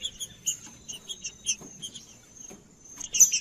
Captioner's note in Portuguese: trinca ferro cantando